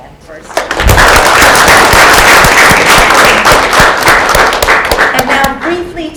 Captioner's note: applause